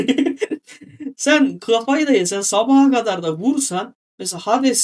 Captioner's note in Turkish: kahkaha